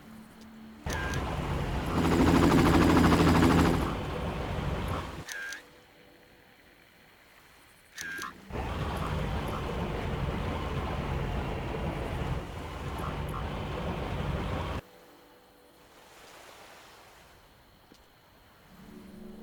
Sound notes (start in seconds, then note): 0.8 distant bird cawing; 14.2 distant bird cawing